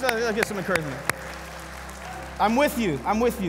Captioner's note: congregation clapping